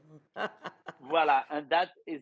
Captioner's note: Rachel chuckling